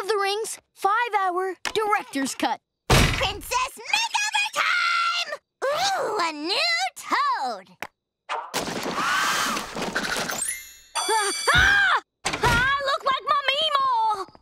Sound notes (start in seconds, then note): 11.5 screaming